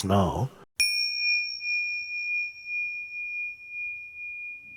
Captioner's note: bell dings